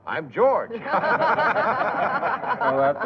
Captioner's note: laughter